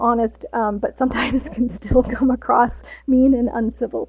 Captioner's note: laughs